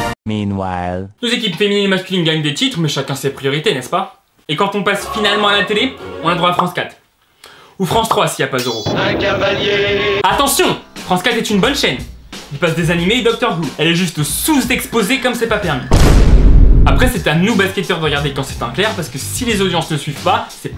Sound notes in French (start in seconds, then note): 15.9 Vine iconic gun shot